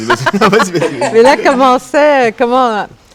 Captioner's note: laughter